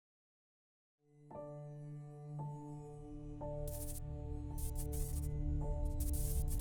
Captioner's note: unsettling piano music; static fizzles